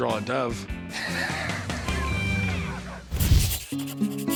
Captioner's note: laughing